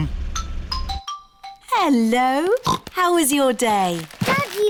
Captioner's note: oinks